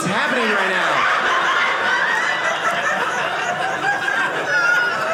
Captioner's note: audience laughing